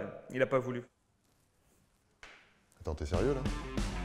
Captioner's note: silence